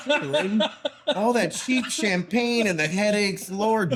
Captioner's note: laughing